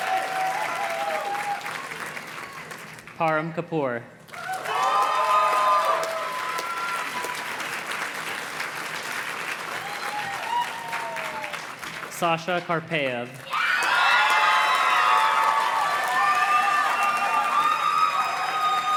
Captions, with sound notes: Parham Kapur. (audience cheers and claps) Sasha Karpayev. (audience cheers and claps)